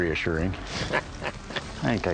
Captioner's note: chuckles